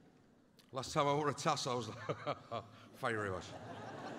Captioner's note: laughing